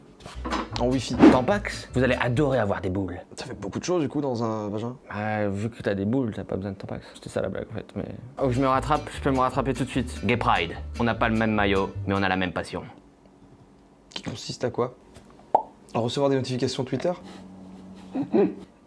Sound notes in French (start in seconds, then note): 15.2 blop; 18.0 rires légers